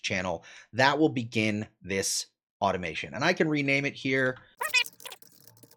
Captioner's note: sped-up audio